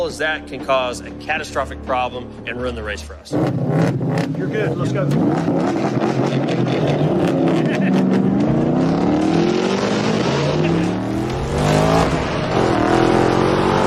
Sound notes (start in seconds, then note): 3.0 engine revving; 5.3 engine revving; 7.6 laughter; 8.8 engine revving; 10.6 laughter; 11.4 engine revving